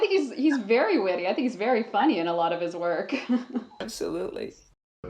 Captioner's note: laughs